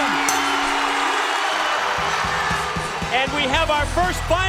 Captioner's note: bell ringing